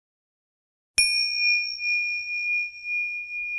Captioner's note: bell dings